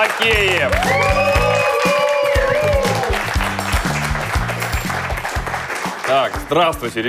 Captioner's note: applause